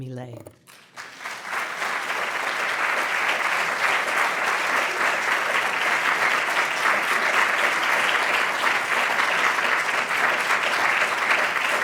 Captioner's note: applause